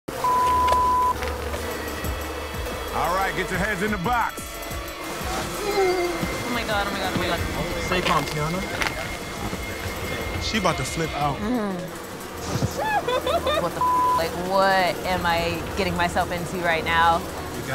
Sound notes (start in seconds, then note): 0.2 beep; 0.8 bees buzz